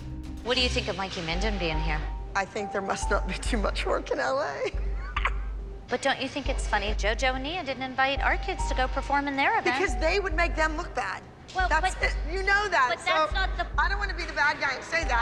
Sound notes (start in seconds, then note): 4.5 laughs